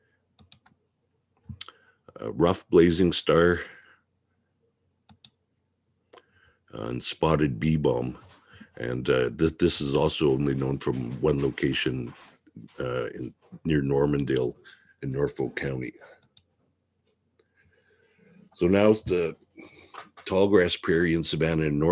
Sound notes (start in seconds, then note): 0.4 mouse clicking; 5.0 mouse clicking; 16.2 mouse clicking